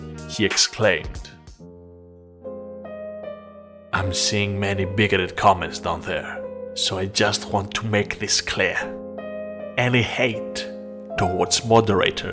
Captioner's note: dramatic Reading